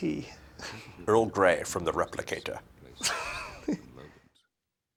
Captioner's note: laughter